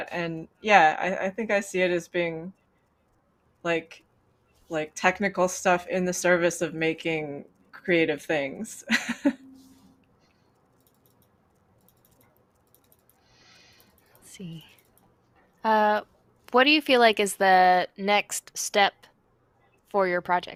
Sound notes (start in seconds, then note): 8.7 laughs